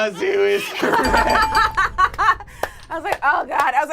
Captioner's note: buzzer rings; laughs